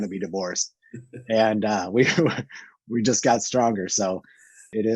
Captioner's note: chuckles